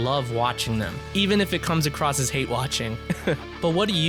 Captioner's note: laughs